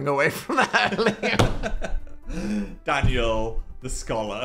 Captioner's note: Dan thuds table